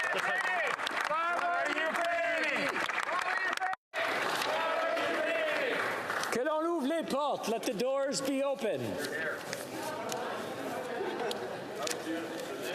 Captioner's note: applause